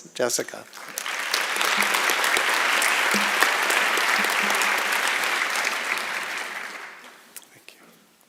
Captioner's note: applause